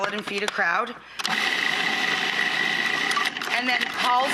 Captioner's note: grinding